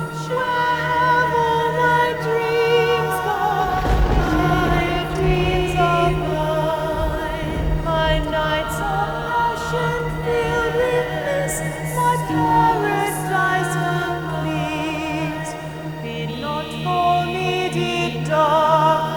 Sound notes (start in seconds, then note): 0.2 sirens singing; 2.9 singing; 7.8 sirens singing; 10.6 singing; 16.0 sirens singing; 18.8 singing